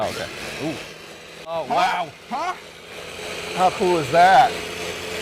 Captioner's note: noise from machine